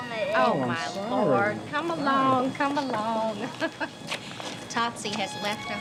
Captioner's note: laughing